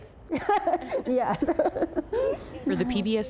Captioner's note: laughter